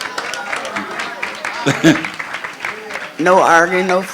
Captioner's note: crowd applauds